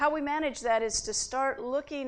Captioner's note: none